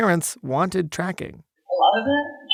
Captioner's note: soundbite of archived recording